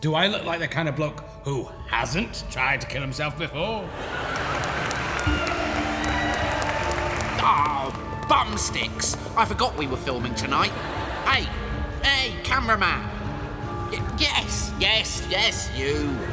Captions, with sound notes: Do I look like the kind of bloke who HASN'T tried to kill himself before? [audience laughs] Awww, bumsticks! I forgot we were filming tonight! Hey! Hey, cameraman! Yes, yes yes you.